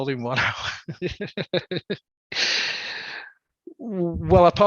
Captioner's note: laughs